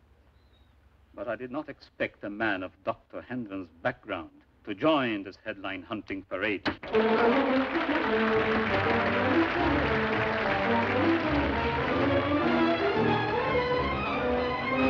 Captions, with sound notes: BUT I DID NOT EXPECT A MAN OF DR. HENDRON'S BACKGROUND... TO JOIN THIS HEADLINE-HUNTING PARADE. [ Delegates Applauding ]